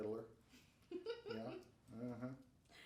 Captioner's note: laughing